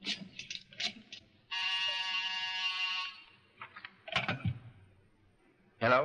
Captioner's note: phone buzzes